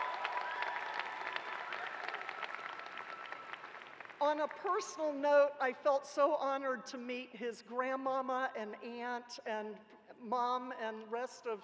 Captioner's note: cheers and applause